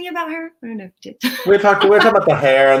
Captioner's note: laughs